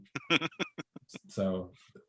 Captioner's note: laughing